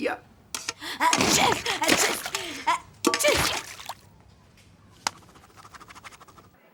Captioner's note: sneezing